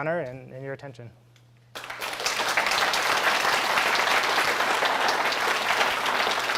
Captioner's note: applause